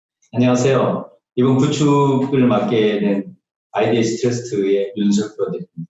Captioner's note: speaking in foreign language